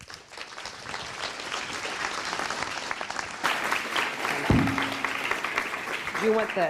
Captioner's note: applause